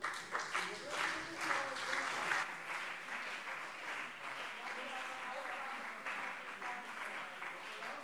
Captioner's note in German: Beifall CDU und BÜNDNIS 90/DIE GRÜNEN - Zurufe